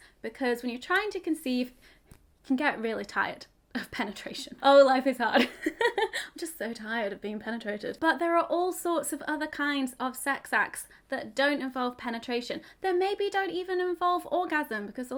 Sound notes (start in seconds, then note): 5.4 laughs